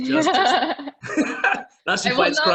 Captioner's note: both laughing